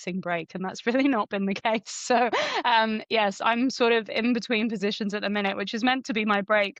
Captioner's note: chuckles